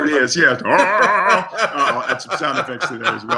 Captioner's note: laughs